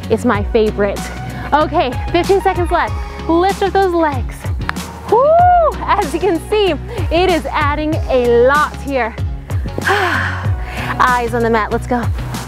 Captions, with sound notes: It's my favorite. Okay, 15 second left. Lift up those legs. (screams) As you can see, it is adding a lot here. Eyes on the mat, let's go.